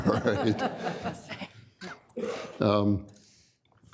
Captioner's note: laughter